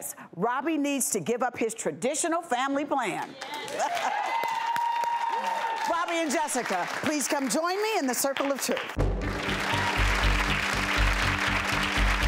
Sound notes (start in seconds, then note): 3.4 audience applause